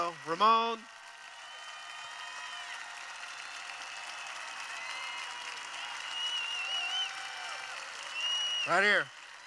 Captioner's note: cheering